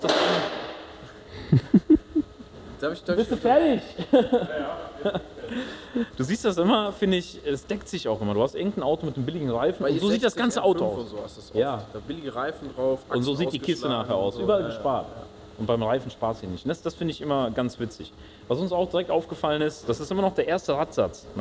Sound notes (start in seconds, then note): 1.0 chuckle; 3.9 laughter